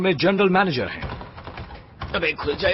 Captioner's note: door rattling